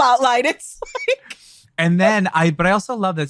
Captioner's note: laughs